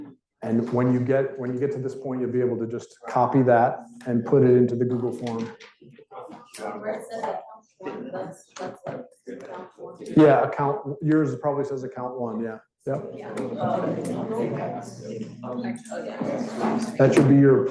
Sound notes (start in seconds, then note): 6.8 student speaking faintly; 12.9 students chattering